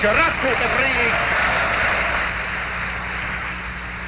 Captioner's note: crowd applauding